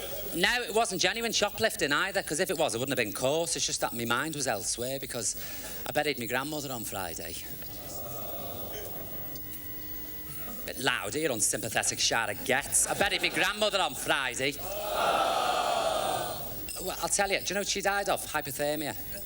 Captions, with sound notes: It wasn't genuine shoplifting anyway, if it was, I wouldn't have been caught it's just that me mind was elsewhere, because I buried my grandmother Friday... [Audience sympathises quietly] Bit louder, you unsympathetic shower of gits, I buried me grandmother Friday! [Audience sympathises loudly] Well, I'll tell ya, you know what she died of? Hypothermia.